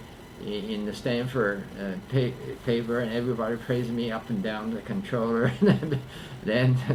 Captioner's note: laughs